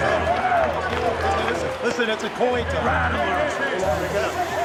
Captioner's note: crowd cheering